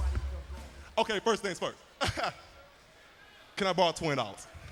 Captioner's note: laughs